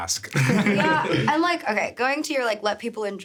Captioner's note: everyone chuckling